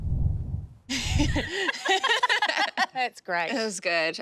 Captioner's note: laughing